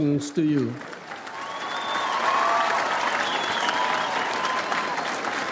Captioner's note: audience applauds